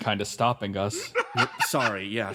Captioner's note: laugh